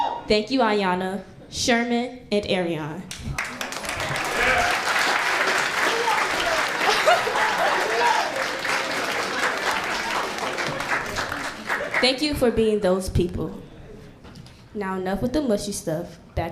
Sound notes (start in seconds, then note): 4.0 applauding; 7.2 laughs